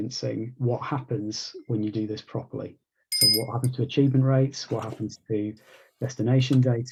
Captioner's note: bell rings